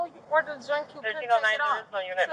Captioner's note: radio chatter